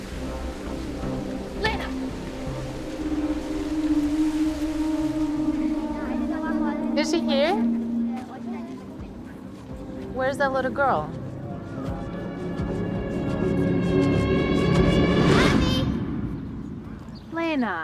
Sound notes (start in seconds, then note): 4.8 wind blows; 13.3 tense music